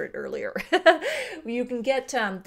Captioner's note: laughs